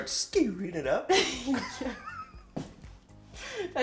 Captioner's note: laughs